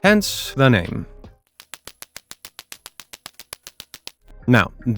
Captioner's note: Klacker clacks